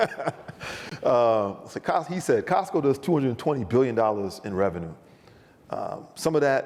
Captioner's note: laughs